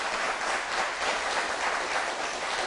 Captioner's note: applause